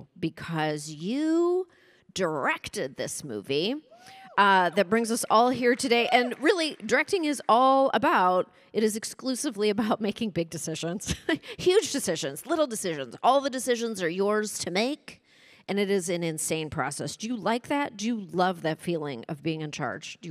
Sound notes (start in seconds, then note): 11.6 chuckles